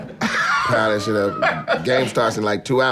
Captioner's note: everyone chuckles